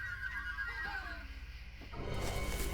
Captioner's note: giggling